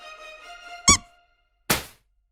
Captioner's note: squeak; pop